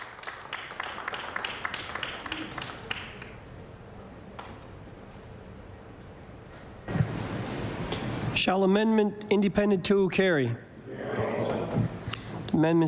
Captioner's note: applause